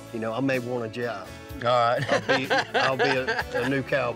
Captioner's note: chuckling